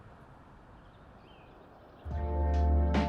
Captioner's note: birds chirping